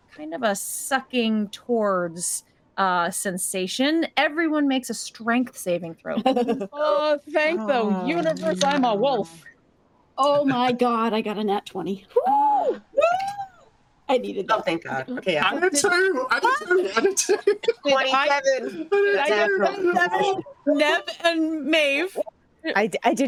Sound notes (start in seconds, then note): 6.0 cast members laughing; 12.1 cast members exclaiming in surprise